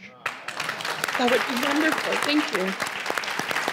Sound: clapping

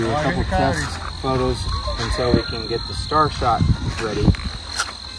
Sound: coyotes yelping

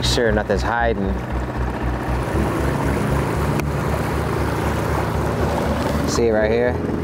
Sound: engine droning; gentle music continues

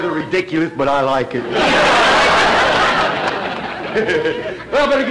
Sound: audience laughter

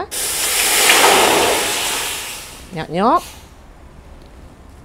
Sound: sizzling sound of liquid on hot surface

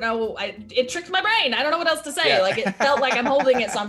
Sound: laugh

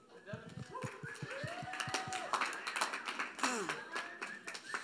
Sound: audience cheering

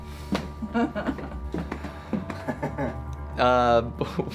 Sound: laughing

